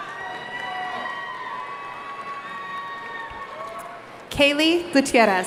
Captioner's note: audience cheering